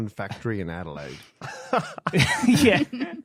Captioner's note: others laughing